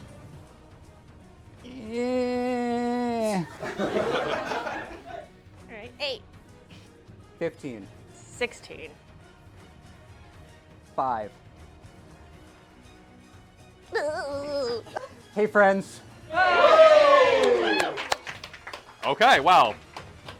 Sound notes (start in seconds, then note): 13.7 strange belly rubbing noise; 16.3 cheers